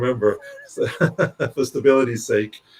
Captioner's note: laughs